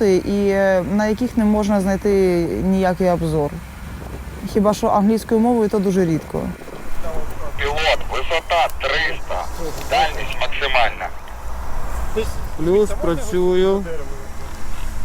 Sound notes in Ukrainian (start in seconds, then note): 7.0 Голос з рації; 11.7 Каже в рацію